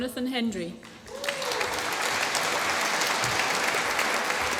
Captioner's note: applause